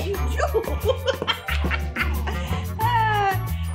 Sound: laughs

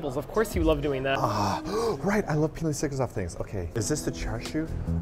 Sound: gasp

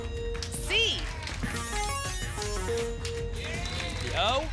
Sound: futuristic sounds

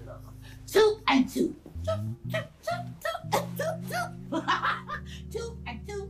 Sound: laughing

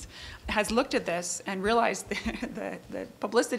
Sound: laughing

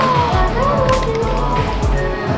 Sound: clap

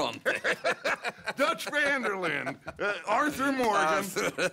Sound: in Italian to guard; laughs

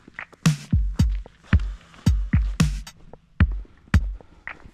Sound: footsteps crunching

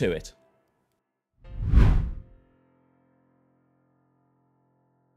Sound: text whooshes

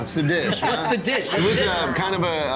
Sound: laughing

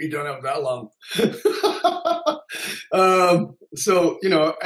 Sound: laughs

